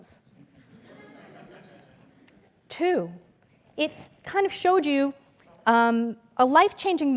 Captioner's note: laugh